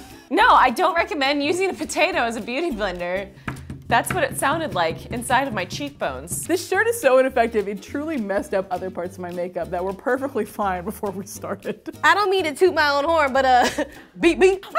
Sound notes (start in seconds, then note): 3.3 thumping